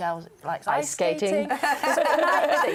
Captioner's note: laughter